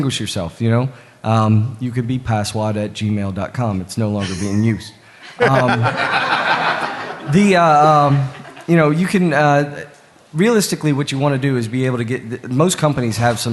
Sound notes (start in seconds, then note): 5.3 laughter